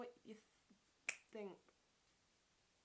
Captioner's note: clicks fingers